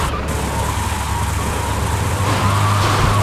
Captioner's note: tires screeching